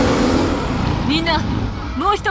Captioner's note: battle chatter